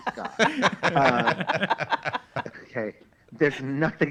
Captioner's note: all laugh